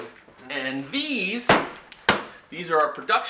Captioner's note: thud